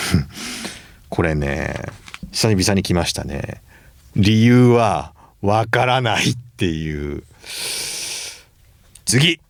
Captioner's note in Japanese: ため息; 鼻息